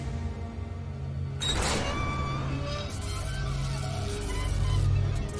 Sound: military mission music; door open; electric buzzing

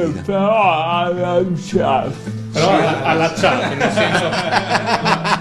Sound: laughs

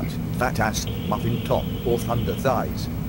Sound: phone rings

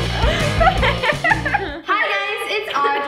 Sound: laughing

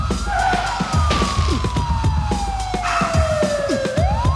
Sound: tires squealing

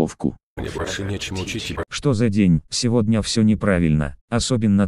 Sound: none

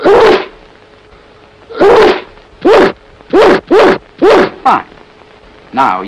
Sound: sneezes repeatedly

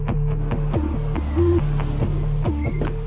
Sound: vehicle Screeching

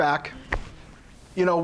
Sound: clap

